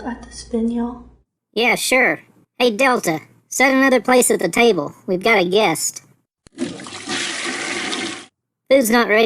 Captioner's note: flushing noise